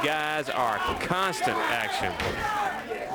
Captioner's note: crowd chatter